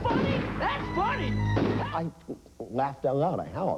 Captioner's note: bang